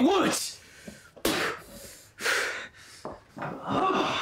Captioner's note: mouth spits; footsteps thud; Emmett grunts